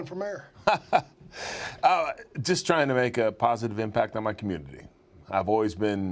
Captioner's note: laugh